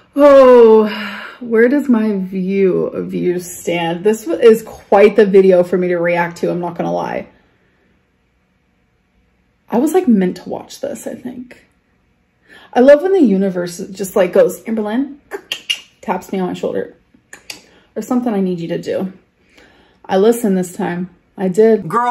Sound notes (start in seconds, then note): 17.3 clicks tongue